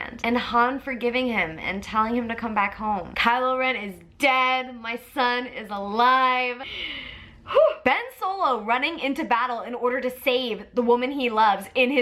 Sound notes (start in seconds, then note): 6.6 sighs